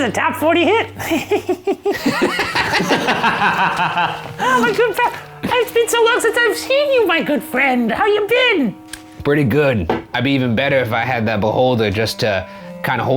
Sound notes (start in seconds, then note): 0.8 giggles; 0.9 all laughing